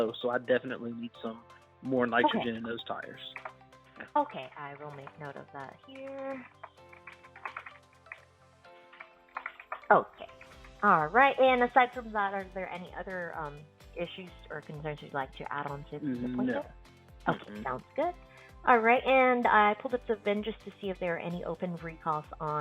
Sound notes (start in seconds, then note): 6.5 BDC Rep typing